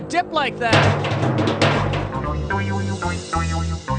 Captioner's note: clunking